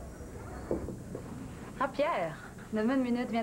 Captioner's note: Il frappe à la porte